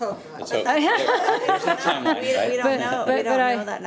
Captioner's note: all laughing